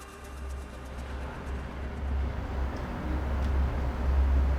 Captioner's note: traffic humming